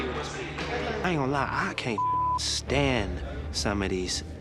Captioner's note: beep